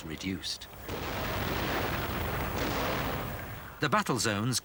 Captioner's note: guns firing